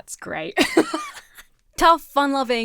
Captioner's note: laughs